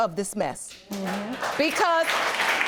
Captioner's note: audience applauds